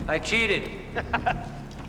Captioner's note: Louis laughs